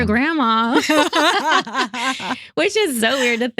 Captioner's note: both Laughing